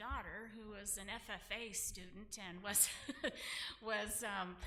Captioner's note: laughs